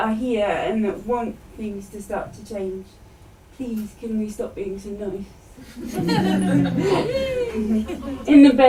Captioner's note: laughter